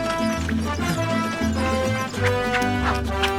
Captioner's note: grunting